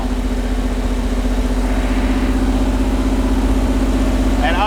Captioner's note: engine revving